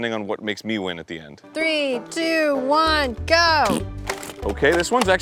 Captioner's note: fart sound, failure to launch